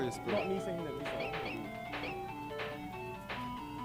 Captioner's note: game beeping